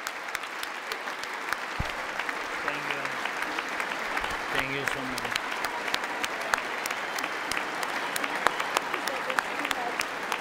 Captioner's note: applause